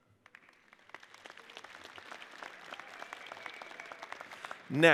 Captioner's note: audience applauds